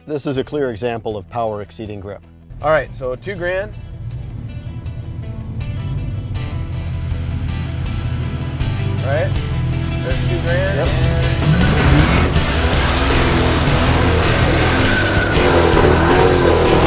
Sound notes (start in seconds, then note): 4.4 engine idling over rock music; 10.8 tires squeal; 12.1 engine revs